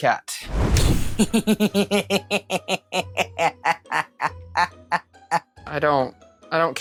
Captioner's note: evil laughter